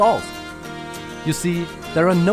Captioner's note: spoken very quickly